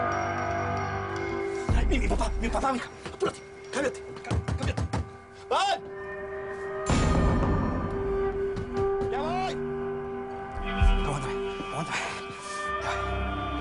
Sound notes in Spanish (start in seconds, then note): 4.3 Toques en la puerta; 8.5 Toques en la puerta; 11.2 Habla entre dientes